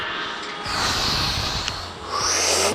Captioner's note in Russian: Выдох